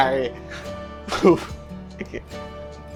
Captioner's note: sobs